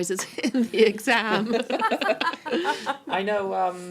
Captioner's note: laughing